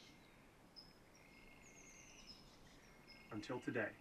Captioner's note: bird chirp